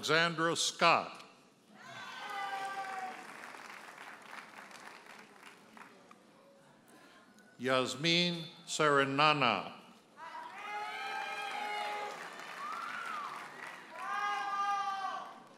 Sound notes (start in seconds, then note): 1.9 audience cheers and applauds; 10.5 audience hollers and applauds